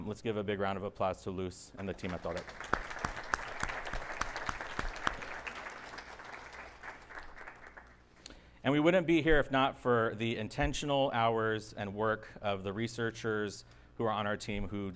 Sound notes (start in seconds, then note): 1.9 audience applauding